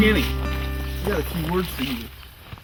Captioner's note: birds chirp